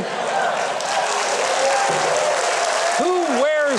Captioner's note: audience applauds and cheers